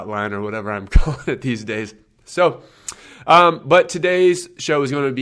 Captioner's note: laughs